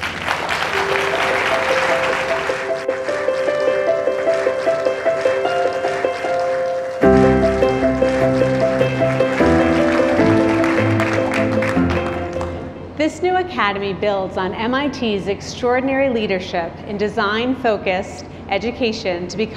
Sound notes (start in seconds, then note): 0.1 audience applauding; 0.1 warm music; 8.7 audience applauding